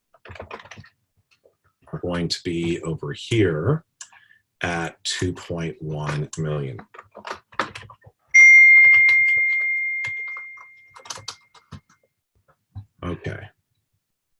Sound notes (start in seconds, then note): 8.3 ringing Sound